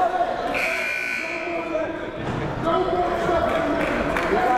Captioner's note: timer buzzes